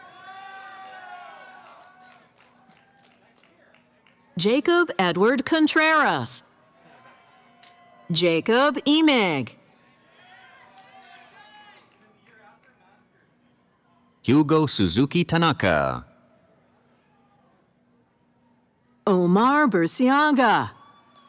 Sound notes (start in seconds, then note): 0.0 cheering; 6.4 cheering; 9.6 cheering